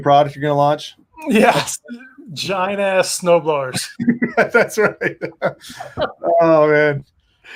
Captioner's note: laughing